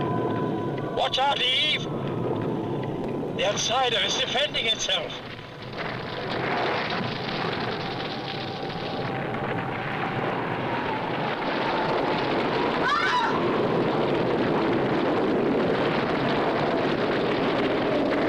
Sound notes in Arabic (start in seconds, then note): 11.5 حطام يتساقط; 12.8 حواء تصرخ